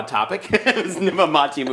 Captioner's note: laughing together